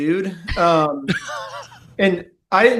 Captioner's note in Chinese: 笑声